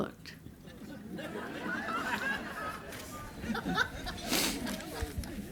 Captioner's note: laughter